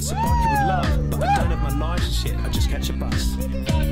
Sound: all cheering

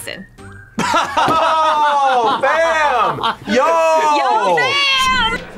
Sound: laughs

